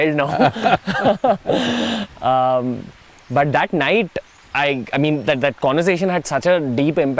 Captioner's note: Sadhguru laughs